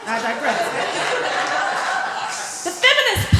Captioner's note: laughter